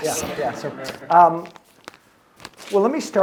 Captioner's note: audience laughing